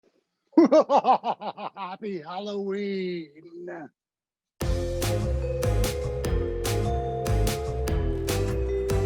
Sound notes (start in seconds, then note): 0.5 laughs; 4.6 upbeat music